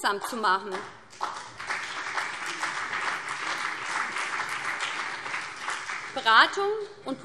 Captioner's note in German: Beifall BÜNDNIS 90/DIE GRÜNEN und CDU